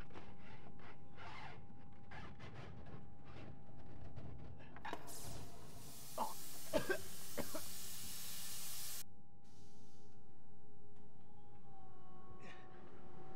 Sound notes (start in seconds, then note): 4.9 loud bang, air hissing; 6.1 coughing